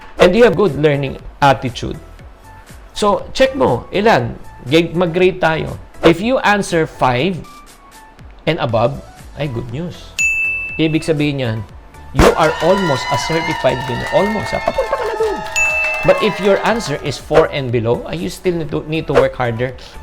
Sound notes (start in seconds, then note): 10.2 chime; 12.2 cheers; 15.6 chime; 16.0 cheers